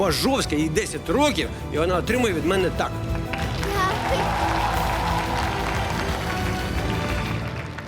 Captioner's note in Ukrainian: оплески